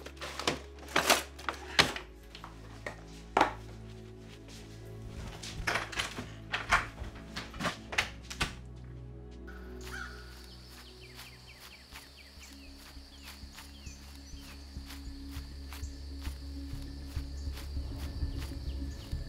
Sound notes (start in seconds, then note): 10.2 birds chirping; 15.8 soft suspense music